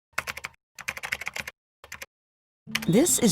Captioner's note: keyboard typing